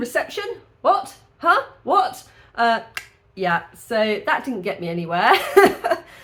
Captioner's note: click